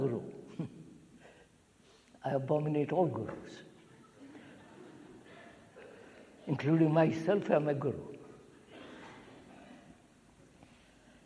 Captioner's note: laughs